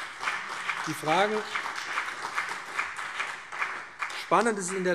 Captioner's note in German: Beifall BÜNDNIS 90/DIE GRÜNEN und CDU